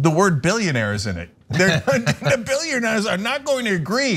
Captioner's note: laugh